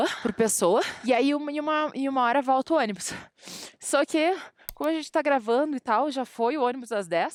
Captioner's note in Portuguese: risadas